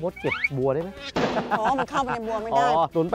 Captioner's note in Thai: เสียงหัวเราะ